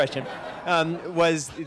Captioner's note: laughter